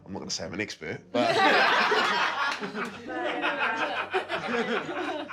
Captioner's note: laughing